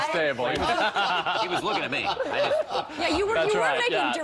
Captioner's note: laughter